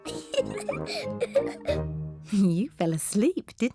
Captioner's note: laughs